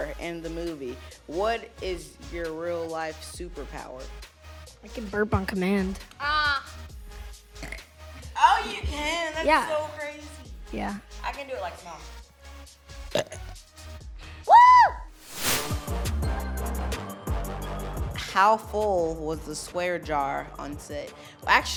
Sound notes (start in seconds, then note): 7.5 burps; 13.0 burps; 14.4 screams; 15.2 upbeat music